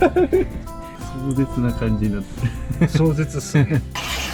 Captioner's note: laugh